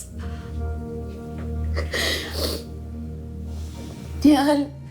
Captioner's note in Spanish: Sollozos